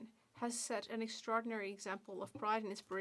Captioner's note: speaking French